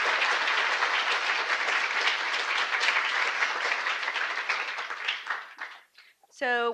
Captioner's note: applause